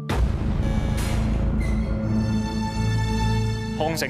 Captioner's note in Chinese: 開閘門聲